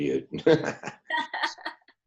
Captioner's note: laughing